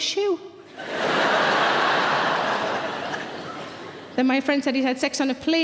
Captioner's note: audience laughter